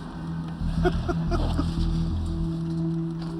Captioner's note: laughs